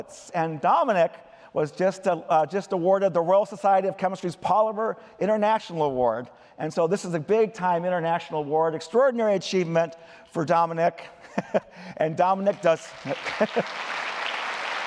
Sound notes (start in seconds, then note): 11.1 laughter; 12.4 applause